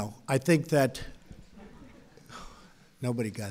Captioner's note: laughter